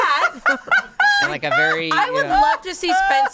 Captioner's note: laughs